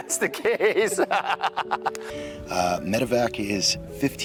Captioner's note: both laugh